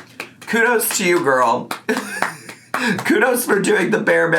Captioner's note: laughing